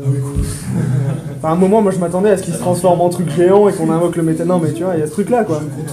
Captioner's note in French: rires